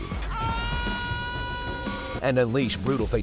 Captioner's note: enemy screams